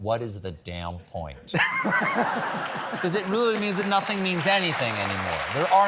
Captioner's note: laughter